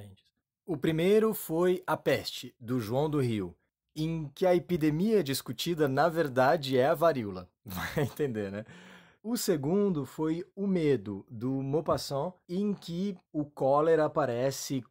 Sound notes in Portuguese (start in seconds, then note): 7.6 risos